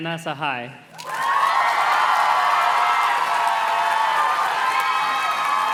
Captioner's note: audience cheers and claps